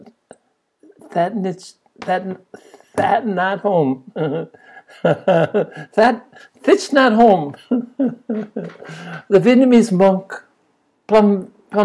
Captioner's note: laughs